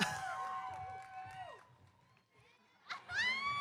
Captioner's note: cheering